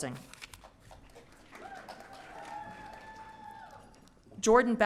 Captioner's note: audience cheering